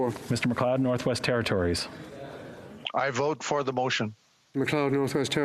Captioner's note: speaking French